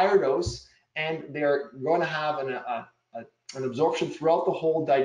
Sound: murmurs

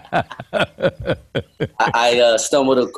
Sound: both laugh

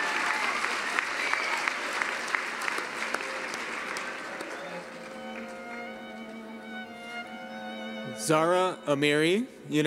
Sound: cheering and applause

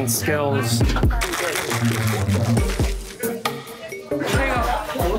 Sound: ice rattling

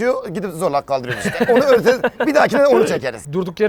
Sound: laughs

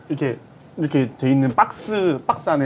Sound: in Korean

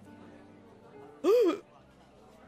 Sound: waitress gasps

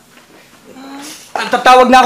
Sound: sniffles

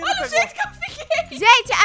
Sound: laughing

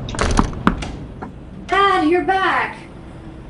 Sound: door slamming

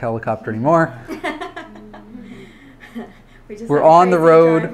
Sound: laughs

